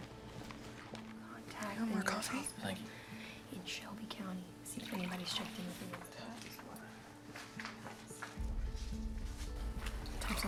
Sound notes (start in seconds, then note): 4.6 coffee pours; 6.3 deputies chatting